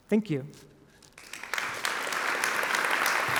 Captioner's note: applause